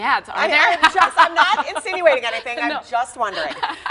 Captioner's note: laughter